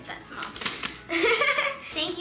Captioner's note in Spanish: risas